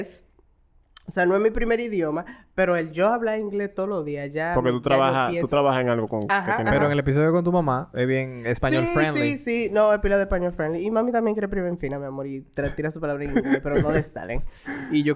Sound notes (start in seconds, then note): 13.3 laughs